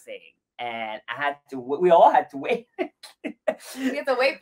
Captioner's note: laughs